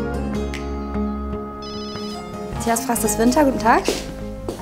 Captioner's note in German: Telefon klingelt